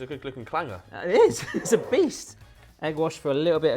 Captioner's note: laughs